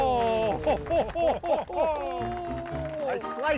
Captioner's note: crowd applauding; brand sizzling; ragtime music